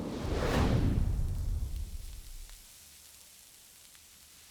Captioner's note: sizzling